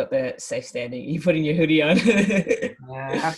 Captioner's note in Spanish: Risas